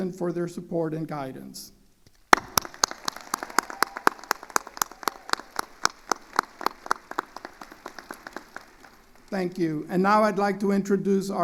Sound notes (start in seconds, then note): 2.3 attendees applauding